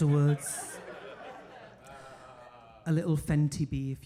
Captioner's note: audience laughing